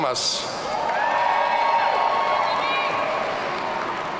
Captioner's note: audience cheering